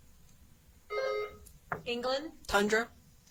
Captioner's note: buzzer chimes